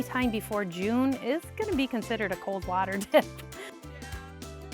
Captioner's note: chuckles; upbeat music